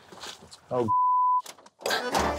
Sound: beep; classic Italian music

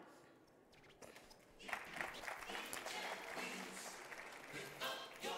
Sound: audience clapping

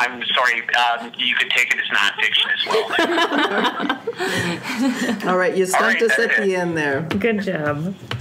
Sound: laughs

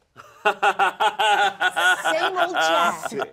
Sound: Troy laughing

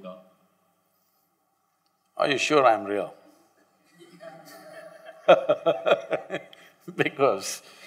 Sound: laughter

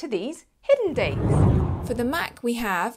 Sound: air swooshing

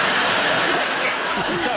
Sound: laughter

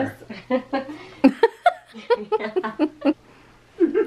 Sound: laughing

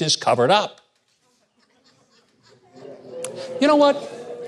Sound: audience snickering

